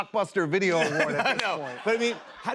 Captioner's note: laughter